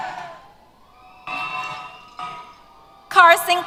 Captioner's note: cheers